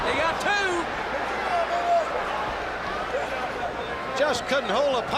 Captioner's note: crowd chatter